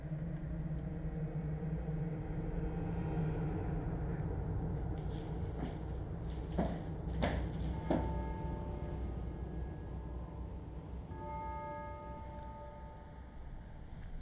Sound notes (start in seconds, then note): 0.1 tense music continues; 7.3 bells ringing